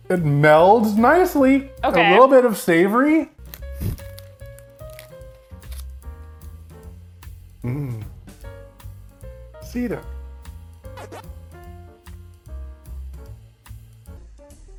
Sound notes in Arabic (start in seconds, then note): 3.5 موسيقى لحنية; 10.9 أصوات ألعاب الفيديو